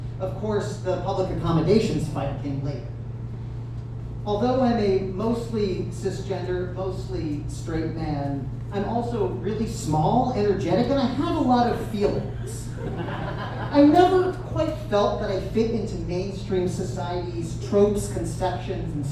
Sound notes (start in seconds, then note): 11.6 audience chuckles